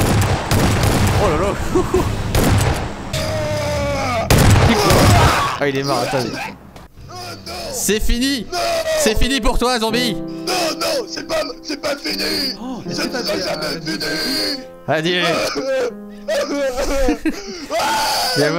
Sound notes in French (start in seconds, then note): 3.0 boum; 7.7 musique triste; 17.7 pleure